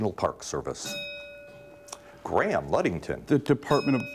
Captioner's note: bell rings